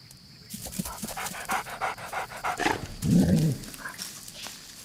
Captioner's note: dog panting